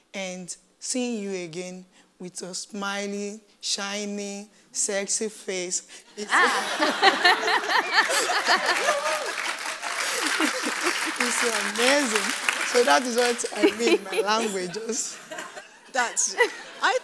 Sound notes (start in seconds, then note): 6.1 laughs; 6.3 audience applause; 15.5 laughs